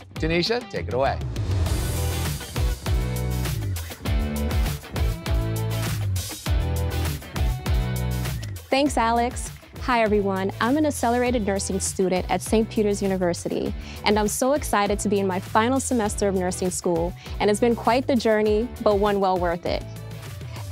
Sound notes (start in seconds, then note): 1.2 graphics whoosh; 2.1 upbeat music intensifies